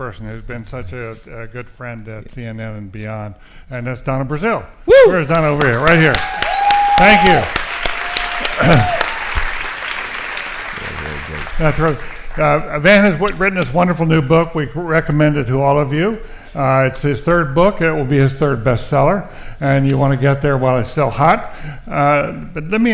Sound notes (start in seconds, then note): 5.1 audience cheers and applauds